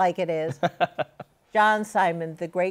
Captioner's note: laughs